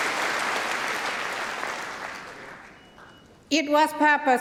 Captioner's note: cheering & Applause